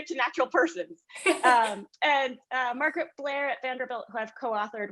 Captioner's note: laugh